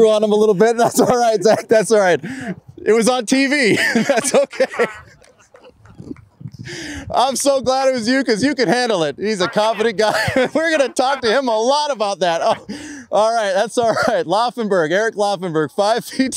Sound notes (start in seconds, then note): 3.5 laughs